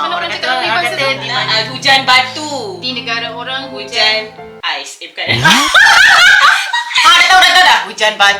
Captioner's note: laugh